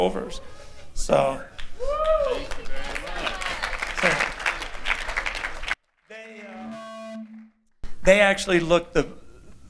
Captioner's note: applause